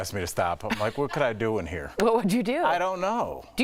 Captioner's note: laughter